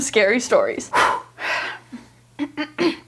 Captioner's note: exhaling sharply; clearing throat